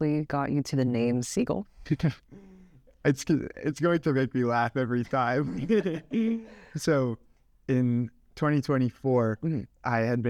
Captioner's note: laughs